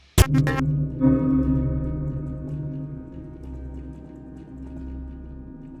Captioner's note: static crackles; brooding music